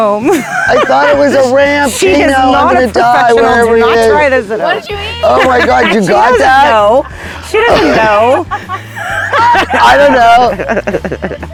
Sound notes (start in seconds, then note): 0.2 all laughing; 5.0 laughing; 8.9 all laughing